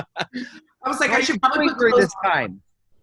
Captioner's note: laughter